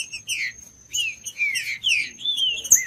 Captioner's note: trinca ferro cantando